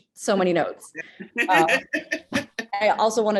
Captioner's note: laughs